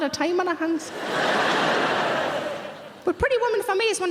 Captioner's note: audience laughing